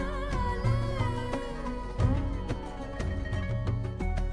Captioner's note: none